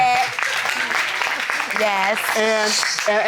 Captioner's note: audience applauding